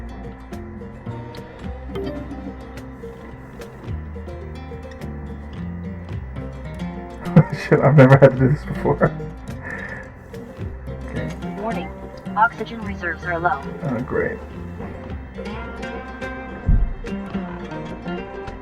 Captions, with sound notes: (laugh) Holy shit, I've never had to do this before. Okay. Oh, great.